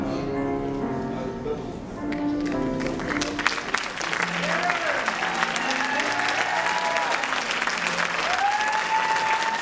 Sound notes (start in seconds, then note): 2.7 applause